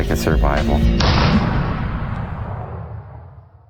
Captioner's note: gun blast